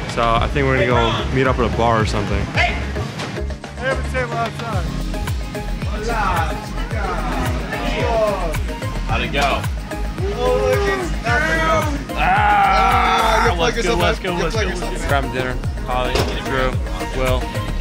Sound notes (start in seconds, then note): 12.1 yells and mumbles incoherently